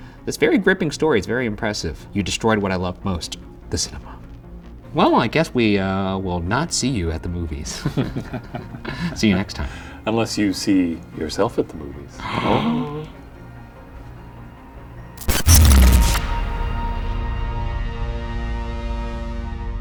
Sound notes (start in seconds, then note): 7.7 both laughing; 12.2 both gasping; 15.2 electrical buzzing; 16.3 eerie music